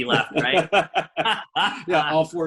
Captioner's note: laughing